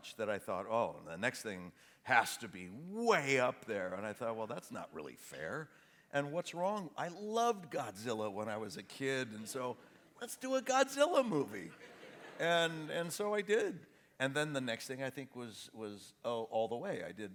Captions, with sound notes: that I thought, "Oh! The next thing has to be way up there!" Then I thought, "Well, that's not really fair. What's wrong...?" I loved Godzilla when I was a kid and so, "Let's do a G odzilla movie!" (AUDIENCE LAUGHS) And so I did. And then the next thing, I think, was All The Way .